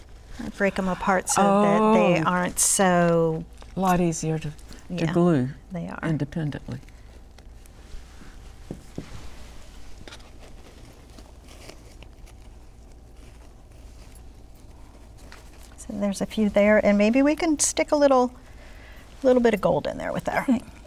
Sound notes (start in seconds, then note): 12.1 rustling sound